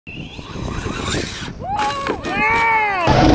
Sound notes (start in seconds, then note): 0.1 whirring; 1.8 shouting